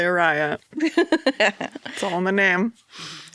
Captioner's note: laughs